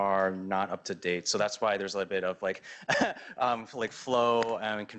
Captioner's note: laughs